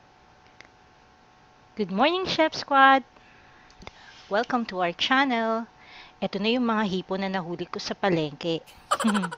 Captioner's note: laughing